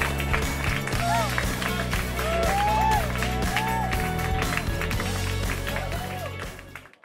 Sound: cheering and applause

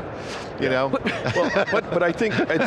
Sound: laughs

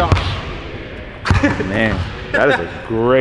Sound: laughs

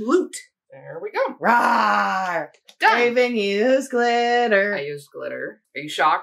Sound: rawr

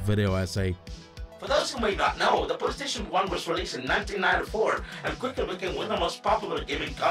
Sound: ChatGPT voice

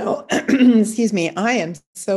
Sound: clearing her throat

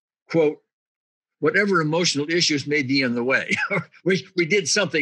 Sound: giggles

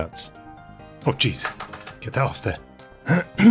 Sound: clears throat

